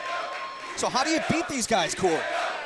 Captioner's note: crowd cheering